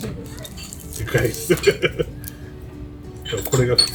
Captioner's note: laughs